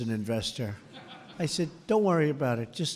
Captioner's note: laughter